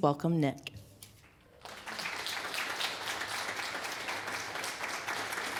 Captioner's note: applause